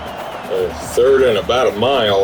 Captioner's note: crowd Noises